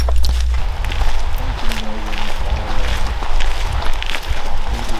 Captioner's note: footsteps fall